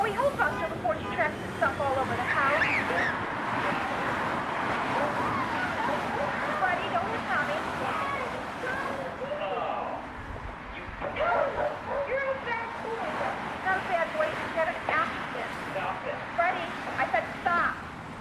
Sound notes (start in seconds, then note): 2.3 dog yelping; 3.7 constant traffic sounds